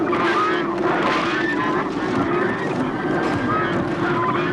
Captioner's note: geese honking